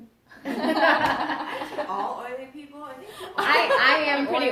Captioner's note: laughter